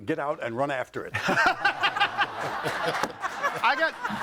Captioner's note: audience laughing